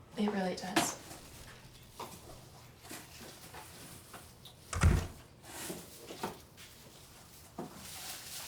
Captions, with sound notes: - It really does. (door closes)